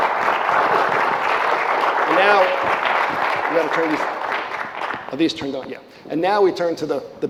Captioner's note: applause